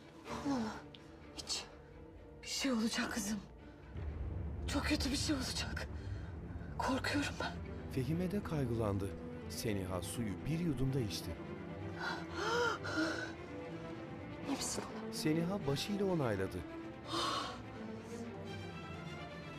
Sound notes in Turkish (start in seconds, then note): 11.9 Nefes sesi; 18.3 Müzik - Gerilim